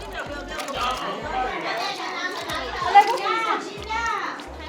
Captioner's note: people chatter